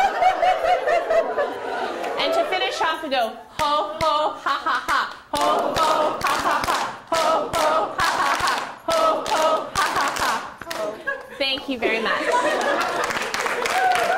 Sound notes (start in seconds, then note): 0.0 laughter; 12.2 applause